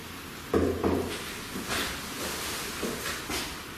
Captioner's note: knocking